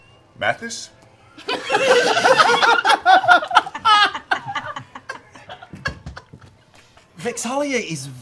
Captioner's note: laughter